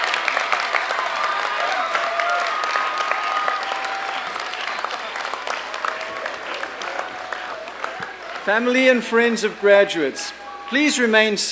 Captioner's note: applause and cheering